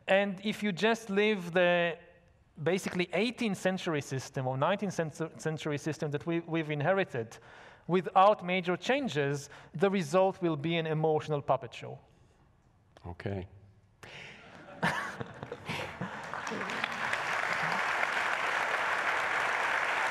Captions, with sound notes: And if you just leave the basically 18th Century system or 19th Century system that we've inherited without major changes, the result will be an emotional puppet show. - Okay. (laughs) (audience laughs) (audience applauds)